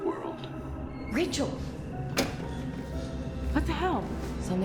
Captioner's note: VCR clicks; suspenseful music